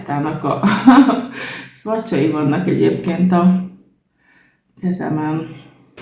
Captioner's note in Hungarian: nevetés